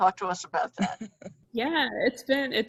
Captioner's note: laughs